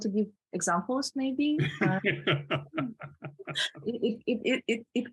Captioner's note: laughing